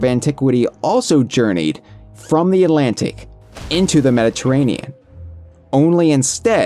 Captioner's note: ship crashing noises